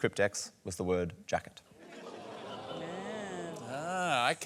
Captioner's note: scattered laughter